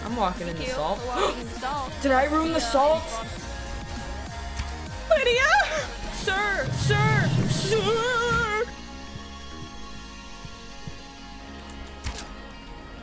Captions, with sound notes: I'm walking in the salt! "Thank you for walking in the salt!" (GASP) Did I ruin the salt? LYDIA?!? Sir! Sir! SIIIRRR!